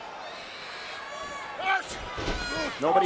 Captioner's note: Batista yells